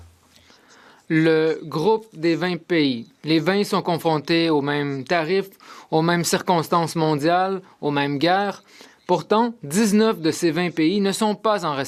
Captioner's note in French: voix de l'interprète